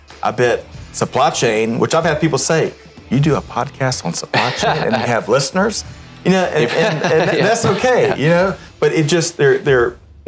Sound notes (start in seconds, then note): 6.4 laughs